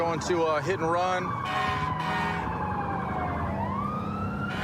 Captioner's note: emt sirens blaring